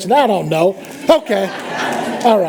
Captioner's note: laughter